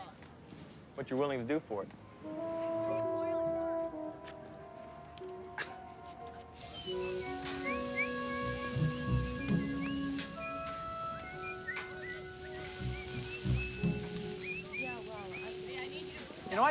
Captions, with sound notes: - What you're willing to do for it. (playful orchestral music) (Jamie chuckles)